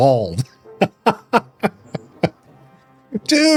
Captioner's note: laughs